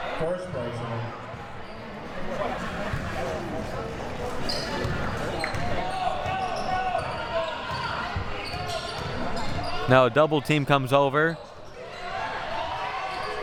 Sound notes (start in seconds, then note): 2.3 audience chattering and yelling